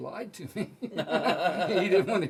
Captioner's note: laughing